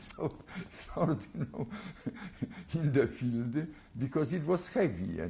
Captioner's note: laughs